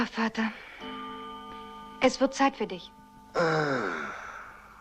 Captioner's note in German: Uhr schlägt